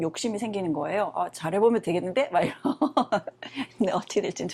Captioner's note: laughs